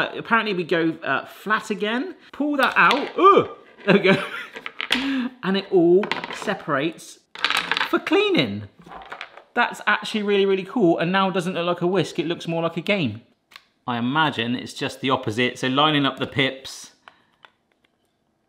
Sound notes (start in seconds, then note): 3.4 groans